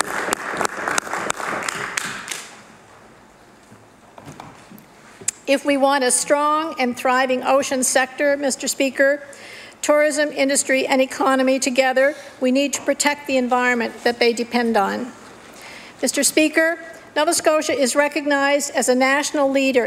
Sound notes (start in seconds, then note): 4.8 applause